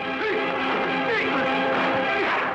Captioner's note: fighters exclaiming